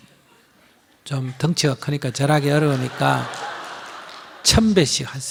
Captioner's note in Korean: 청중 웃음